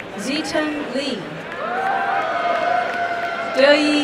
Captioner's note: applause and cheering